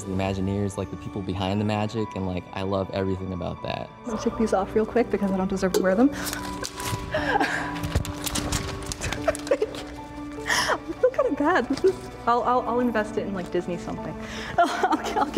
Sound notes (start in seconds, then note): 6.1 money rustling; 6.7 laughing; 8.5 light, tinkling music; 14.5 laughing